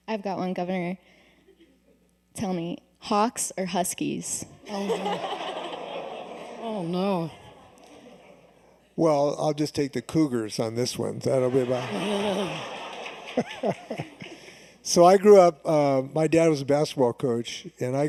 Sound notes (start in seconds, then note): 4.6 laughter